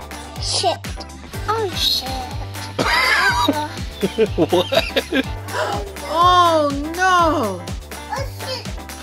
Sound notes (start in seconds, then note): 2.7 voiceover; 3.9 laughter; 6.0 voiceover